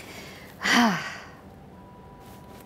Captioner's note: Sighs